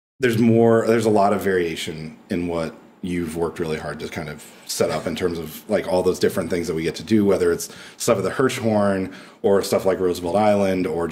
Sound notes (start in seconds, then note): none